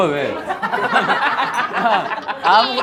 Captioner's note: laughing